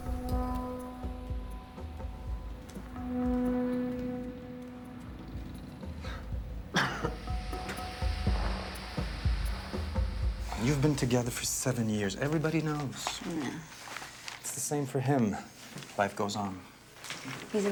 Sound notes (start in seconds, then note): 0.2 suspenseful music; 6.7 person coughing